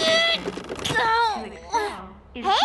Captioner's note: whimper